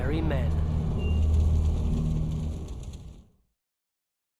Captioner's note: flames crackling